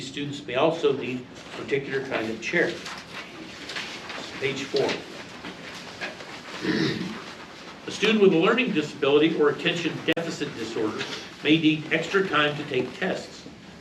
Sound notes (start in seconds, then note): 3.0 papers flipping; 6.6 clears throat